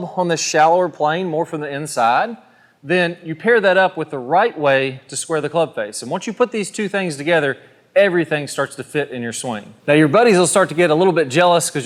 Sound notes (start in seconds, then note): none